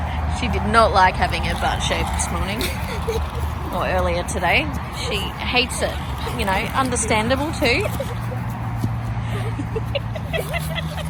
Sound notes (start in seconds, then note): 4.5 giggles as she chases the dog